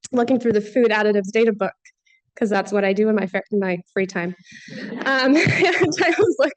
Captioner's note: laughter